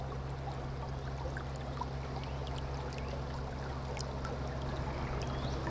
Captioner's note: water continues flowing